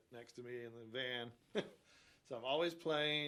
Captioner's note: chuckles